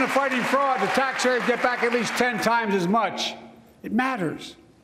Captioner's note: applause